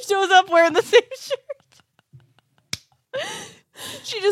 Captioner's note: laughs